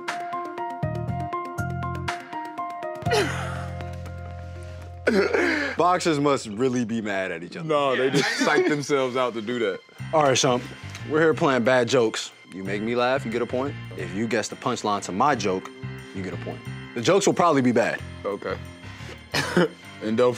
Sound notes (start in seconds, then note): 3.2 both laughing; 7.9 laughs; 19.4 giggles